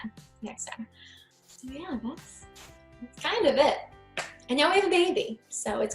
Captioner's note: claps